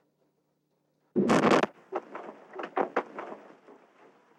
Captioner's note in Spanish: Explosión